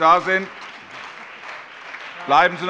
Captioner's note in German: Allgemeiner Beifall